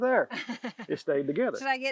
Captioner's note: interviewer laughing